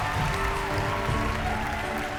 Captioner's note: cheering and applause